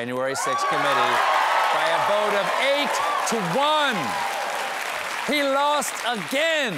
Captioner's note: huge cheer